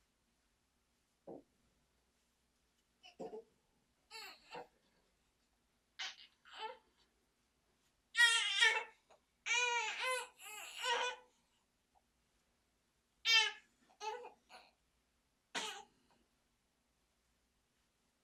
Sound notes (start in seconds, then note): 0.0 silent; 4.1 baby fussing